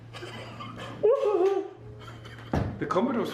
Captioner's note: giggles